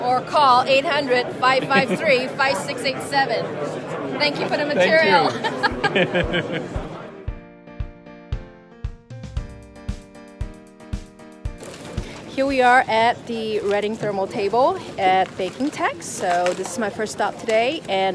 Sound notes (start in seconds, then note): 6.2 they laugh; 7.7 upbeat music